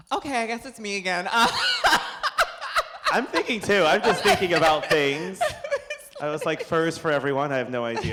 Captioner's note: laughter